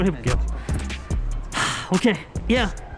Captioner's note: sigh